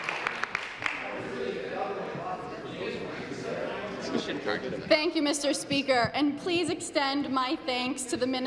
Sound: applause

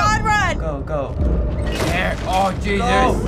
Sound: door booming

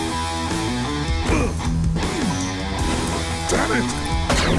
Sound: kicking metal

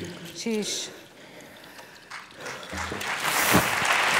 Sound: applauds

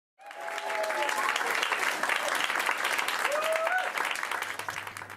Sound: audience applause

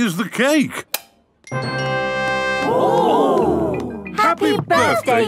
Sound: click

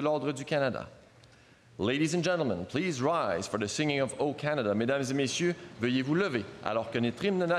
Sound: speaking French

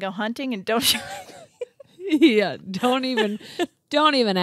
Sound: laughter drowns out speech

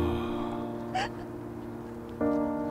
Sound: sighs

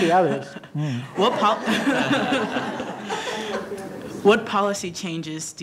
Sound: laughter

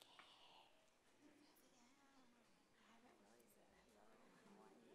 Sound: people talking quietly

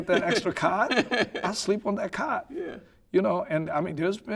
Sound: laughing

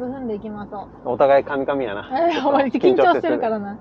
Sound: laughs

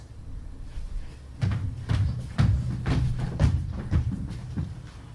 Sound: stomping

